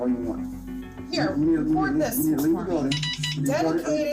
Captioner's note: beeping